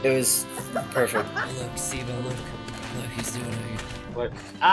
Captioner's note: quietly